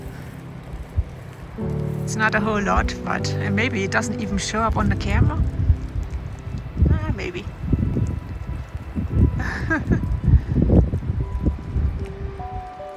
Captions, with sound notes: It's not a whole lot, but maybe it doesn't even show up on the camera? Uh ... maybe! [Laughs]